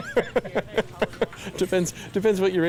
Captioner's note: laughs